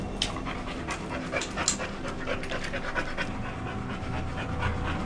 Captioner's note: dog panting